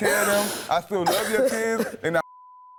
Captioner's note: beep